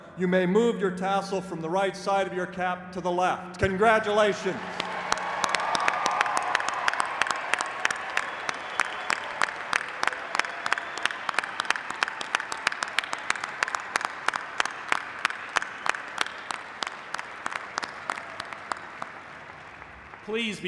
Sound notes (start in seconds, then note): 5.9 applause